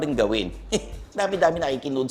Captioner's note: scoffs